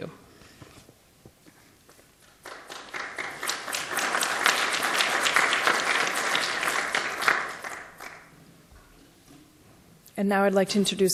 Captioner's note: applause